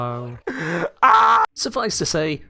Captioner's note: inhale